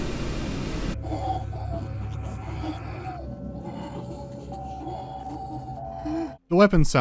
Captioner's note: disturbing gasping and wheezing